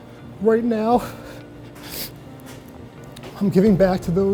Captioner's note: sighs heavily